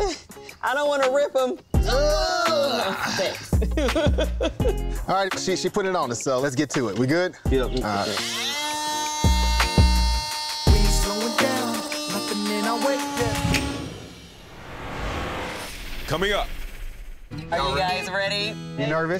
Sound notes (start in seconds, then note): 1.9 both grunting; 2.8 chuckles; 4.3 laughs